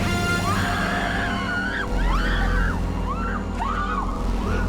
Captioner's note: all screaming; dramatic music